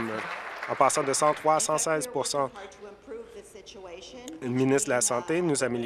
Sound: applause

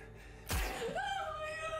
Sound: gun firing

